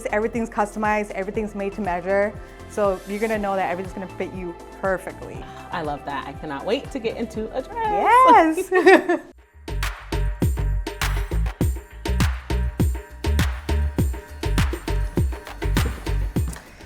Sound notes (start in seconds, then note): 7.8 giggle; 9.9 upbeat rhythmic music